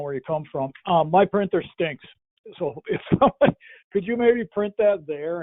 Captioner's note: laughs